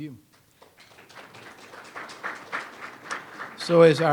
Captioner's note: audience applauds